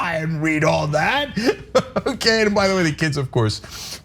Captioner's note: laugh